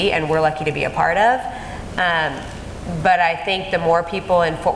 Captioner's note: none